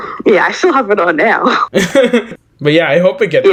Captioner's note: light Laughing